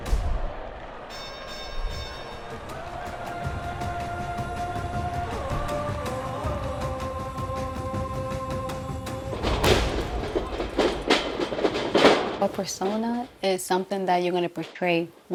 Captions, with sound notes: [bell dings] [dynamic music] - A persona is something that you're gonna portray